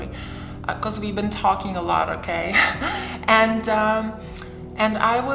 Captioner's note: chuckles